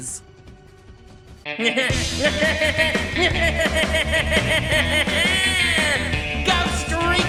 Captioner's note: laughs maniacally as Skeletor